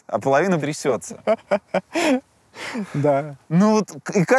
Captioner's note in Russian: смеётся